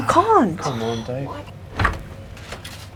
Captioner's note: door opens